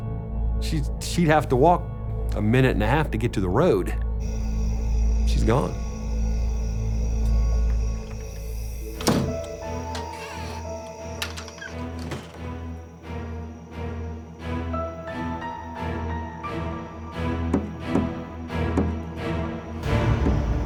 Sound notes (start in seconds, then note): 9.0 dramatic music; 17.5 tapping